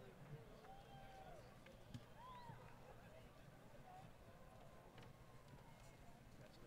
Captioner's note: crowd Cheering & Applause